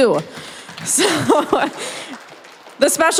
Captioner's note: applause